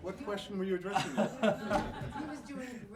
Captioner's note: laughter